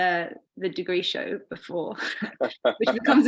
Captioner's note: laughing